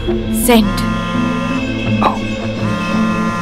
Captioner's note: Phone vibrating